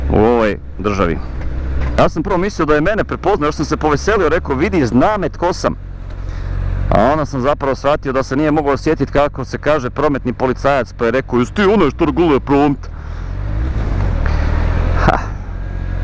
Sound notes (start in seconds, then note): 11.1 thick accent